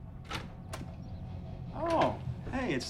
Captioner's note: door knocks; door latch clicks